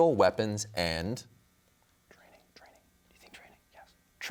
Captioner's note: whispers